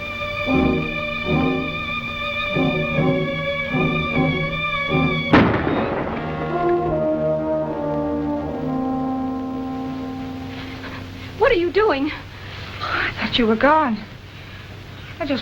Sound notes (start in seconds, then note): 5.3 gunshot